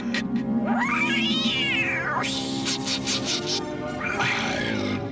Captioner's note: screech